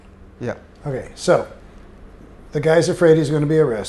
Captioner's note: none